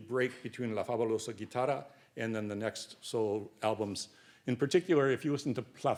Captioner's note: speaks Spanish